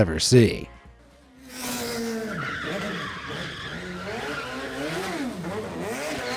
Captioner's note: car engine revving; car tires screeching